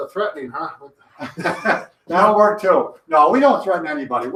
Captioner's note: chuckles